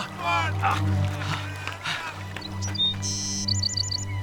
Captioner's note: grunting